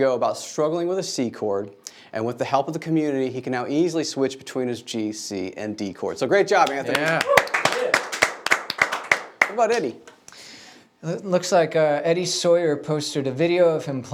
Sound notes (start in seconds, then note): 6.6 audience applauding